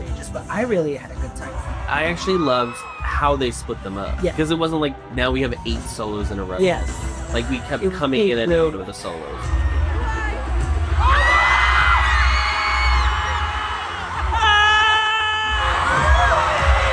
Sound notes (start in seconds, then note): 14.2 screams